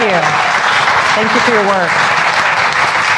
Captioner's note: applause